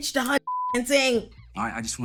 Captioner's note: beep